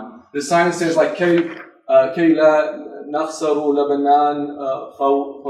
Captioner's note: speaks foreign language